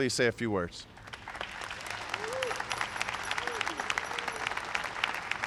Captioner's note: applause